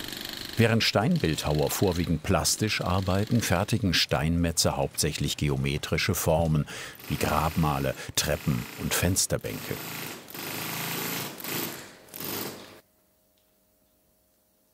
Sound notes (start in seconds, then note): 9.7 machine chattering